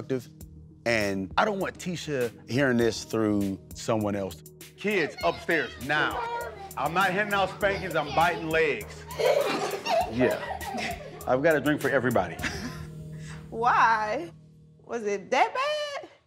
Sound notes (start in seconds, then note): 9.4 children giggle